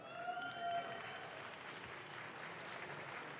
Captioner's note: audience claps